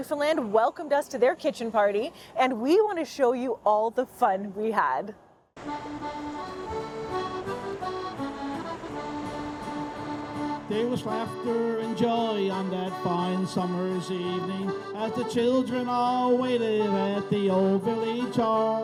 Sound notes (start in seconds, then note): 5.6 waves rolling; 5.9 soft upbeat music